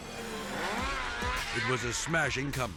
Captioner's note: snowmobile buzzing